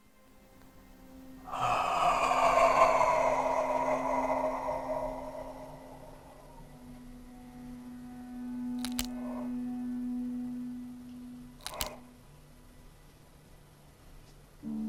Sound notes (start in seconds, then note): 1.4 Chemock exhales deeply; 8.9 neck cracks